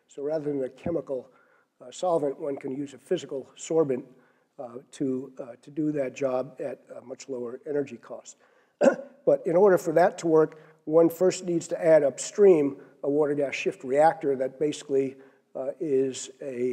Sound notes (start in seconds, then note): 8.8 cough